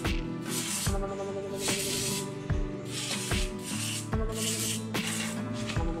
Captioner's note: music and an enthusiastic amount of spraying noises